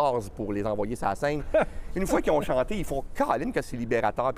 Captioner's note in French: rires